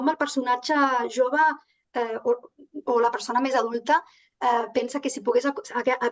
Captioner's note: continues speaking in Catalan